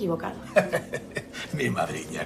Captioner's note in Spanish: Risas